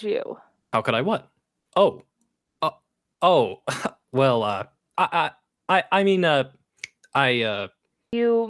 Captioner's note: stammers